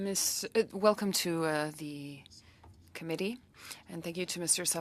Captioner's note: speaking French